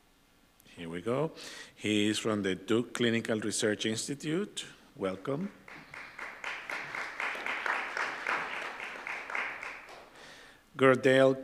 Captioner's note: applause